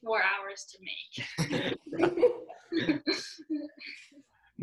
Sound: laughing

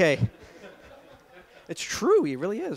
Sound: laughter

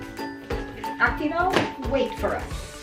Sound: foreign language

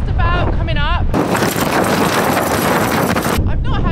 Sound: insane wind noise

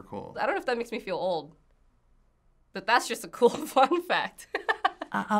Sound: laughs

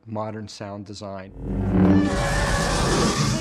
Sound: whooshing; chewbacca groaning

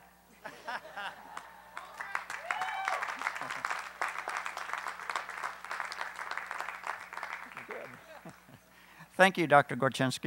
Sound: applause

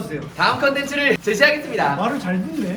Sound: robot voice

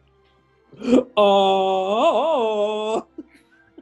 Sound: tarzan call

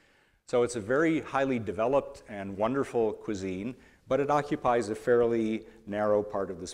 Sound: none

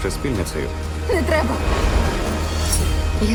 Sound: train rattling

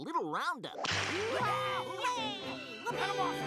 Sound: all exclaiming

